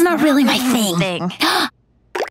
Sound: gasps

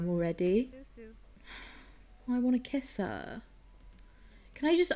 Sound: sighs

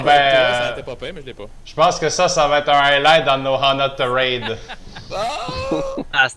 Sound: laughs

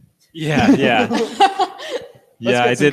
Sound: all laugh

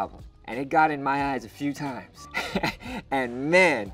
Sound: chuckles

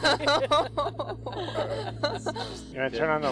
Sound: scientists laughing

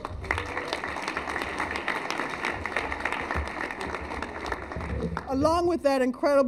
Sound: cheers and applause

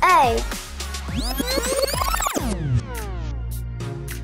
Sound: rewind audio

